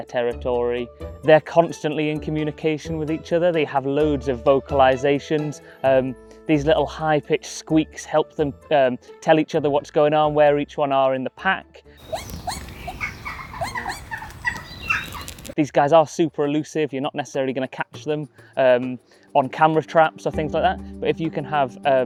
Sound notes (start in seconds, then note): 12.0 audio: bush dogs squeaking